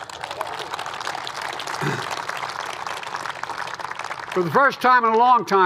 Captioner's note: applause